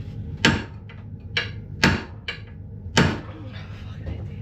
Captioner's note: banging